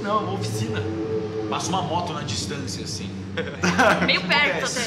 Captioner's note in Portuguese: Risadas